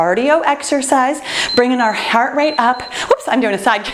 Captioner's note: timer beeps